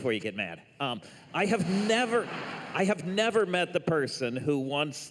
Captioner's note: laughter